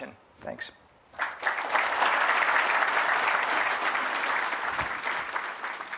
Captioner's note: applause